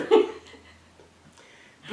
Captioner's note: laugh